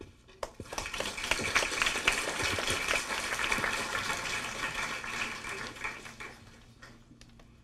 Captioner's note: clapping